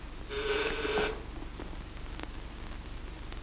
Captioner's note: doorbell rings